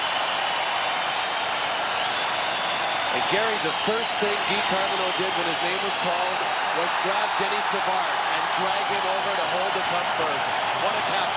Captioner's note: cheers and applause